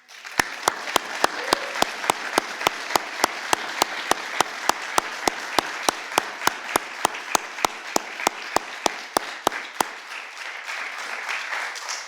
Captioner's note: applause